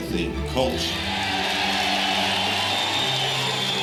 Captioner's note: cheers and applause